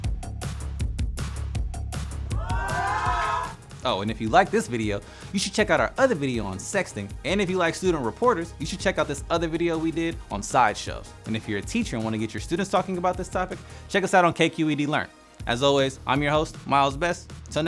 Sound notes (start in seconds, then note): 2.3 cheers